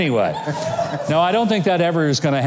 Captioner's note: crowd laughing